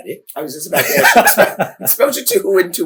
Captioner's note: laughter